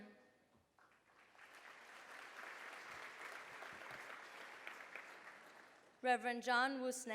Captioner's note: applause